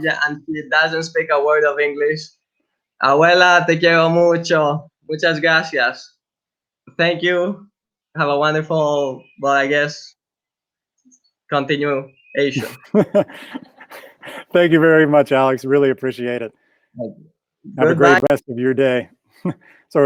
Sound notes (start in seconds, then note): 3.3 speaks in foreign language; 12.5 chuckles